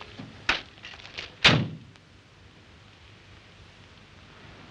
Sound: car door slams

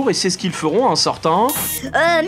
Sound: buzzer sound

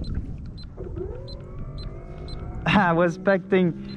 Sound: beeping; engine starts

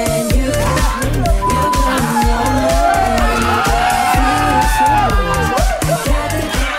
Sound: happy pop music; housemates cheering

